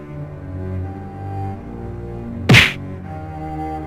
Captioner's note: sound of fist